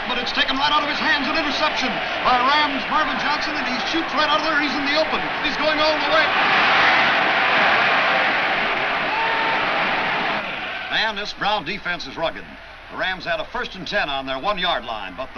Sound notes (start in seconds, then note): 6.6 crowd cheers